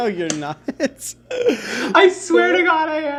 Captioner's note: laughing